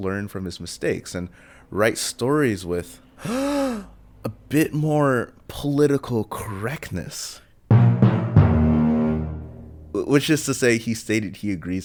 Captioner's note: gasp